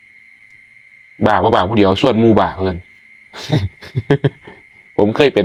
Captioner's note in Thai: เสียงหัวเราะ